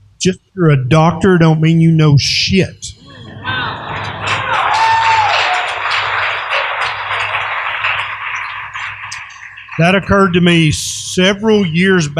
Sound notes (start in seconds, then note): 2.1 laughter, applause, and whoops!